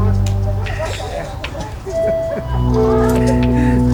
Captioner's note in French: rire